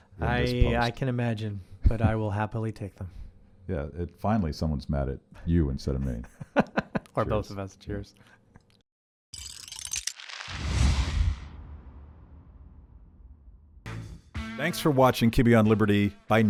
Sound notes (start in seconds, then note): 6.0 laughing; 9.7 chuckles